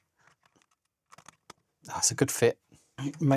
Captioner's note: silence